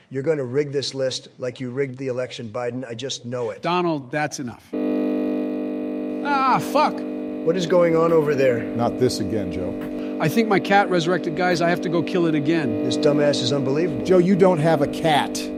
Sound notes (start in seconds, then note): 6.2 computer bugging out